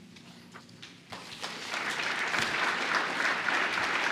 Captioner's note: applause